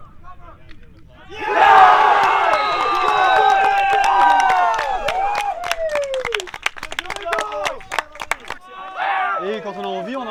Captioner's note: cheering and Applause